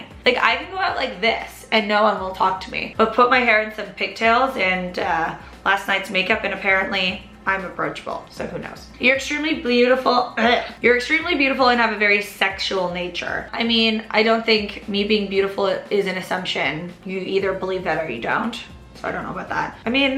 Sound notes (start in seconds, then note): 10.3 gagging sounds